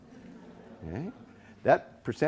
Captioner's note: all chuckling